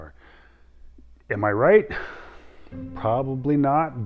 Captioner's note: sighs